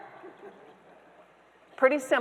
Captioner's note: audience members laughing